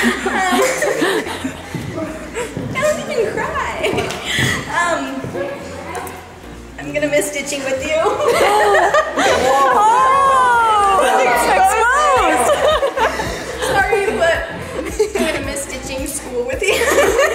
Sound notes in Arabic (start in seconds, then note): 0.0 يضحك كريستال; 4.5 صوت ينكسر; 11.9 الكل يضحك; 16.6 تضحك